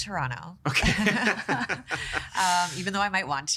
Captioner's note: all laughing